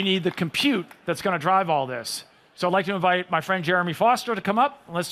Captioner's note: applause